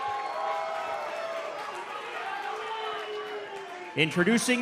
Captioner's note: cheers & applause